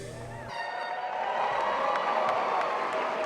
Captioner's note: applause and air horns tooting